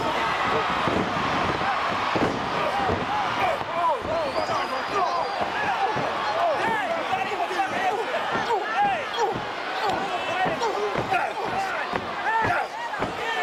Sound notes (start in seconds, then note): 1.3 crowd cheering; 1.3 fighters grunting